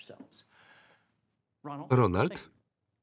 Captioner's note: breath